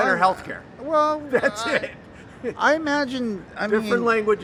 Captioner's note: laughs